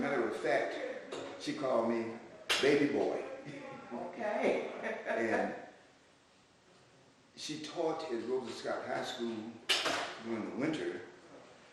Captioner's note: laughter